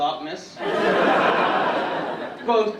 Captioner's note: audience laughing